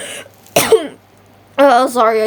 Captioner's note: cough